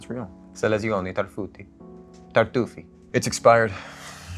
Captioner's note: Penn speaks in foreign language